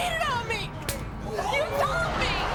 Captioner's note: slaps